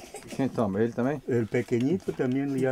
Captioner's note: speaking foreign language